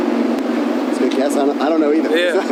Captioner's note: laughs